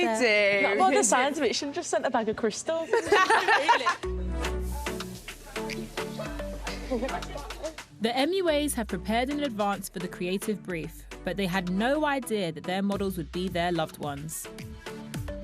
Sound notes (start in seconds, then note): 2.8 laughter; 4.3 upbeat music; 6.6 laughs